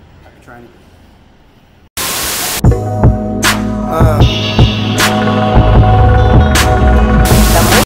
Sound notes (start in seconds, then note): 2.0 TV static; 2.6 hip hop music; 7.2 TV static